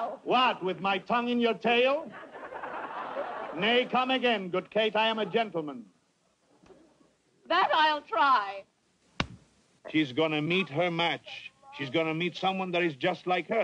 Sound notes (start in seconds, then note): 2.0 crowd laughing; 9.2 slap